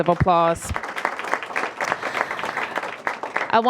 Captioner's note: applause